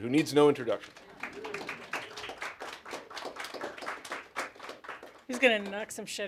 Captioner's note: applause